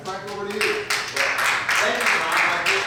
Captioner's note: audience applauds